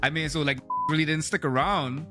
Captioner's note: beep